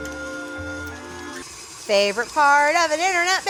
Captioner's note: mixer whirring